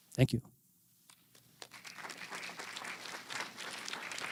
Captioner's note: applause